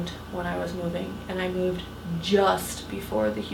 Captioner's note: none